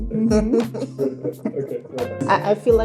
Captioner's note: people laughing